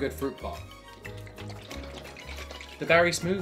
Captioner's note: shaking smoothie in the bottle